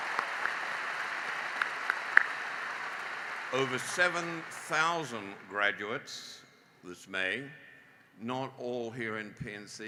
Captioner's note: applause